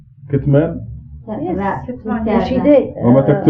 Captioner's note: speaking Farsi